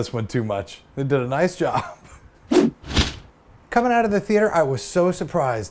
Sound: chuckles

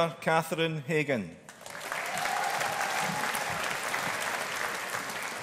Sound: audience applauding

